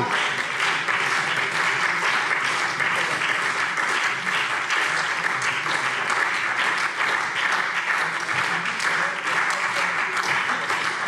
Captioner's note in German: Lebhafter Beifall SPD